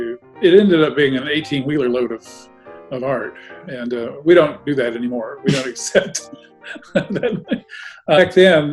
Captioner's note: chuckling